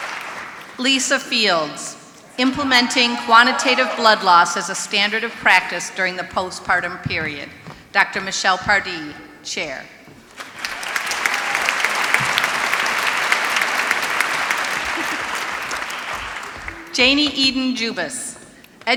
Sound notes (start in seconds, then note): 0.0 applause; 10.3 applause